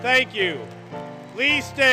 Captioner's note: applause, Music